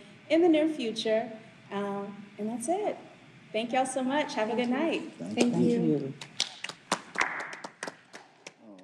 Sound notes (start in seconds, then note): 6.0 group clapping